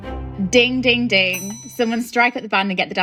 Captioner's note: upbeat music; bell ringing